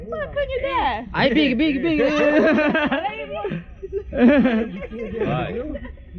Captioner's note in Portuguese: risos